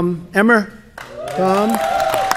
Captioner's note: applause